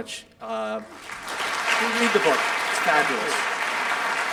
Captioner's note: audience applauding